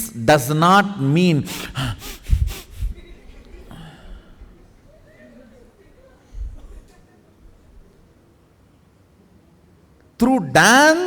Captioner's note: chaotic breathing demonstrated